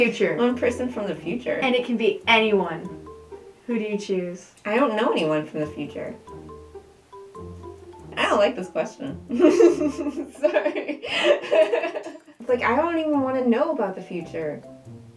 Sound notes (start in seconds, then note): 9.3 laughing; 11.0 laughter